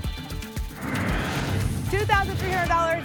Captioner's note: whoosh